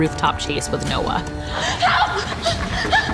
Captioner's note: panting